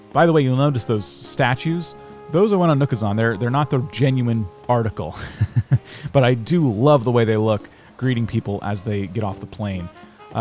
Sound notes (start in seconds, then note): 5.1 laughs